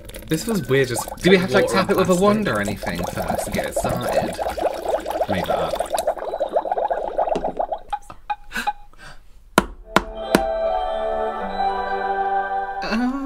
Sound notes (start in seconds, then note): 7.8 tap, Tap, Tap